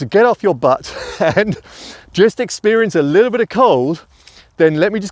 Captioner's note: laughs